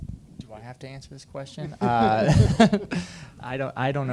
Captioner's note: laughs